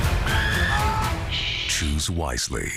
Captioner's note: screaming